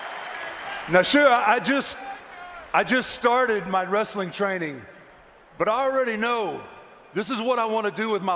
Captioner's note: applause